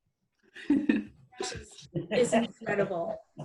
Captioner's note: laughing